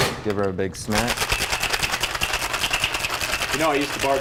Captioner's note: ice clattering